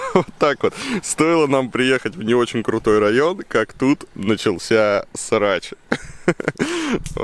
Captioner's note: laughter; chuckling